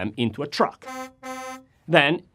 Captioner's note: truck honks